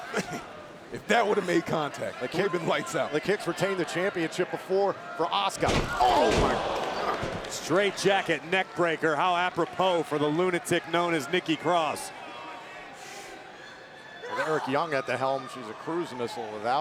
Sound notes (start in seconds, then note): 5.6 canvas slams